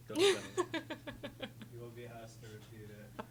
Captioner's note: laughing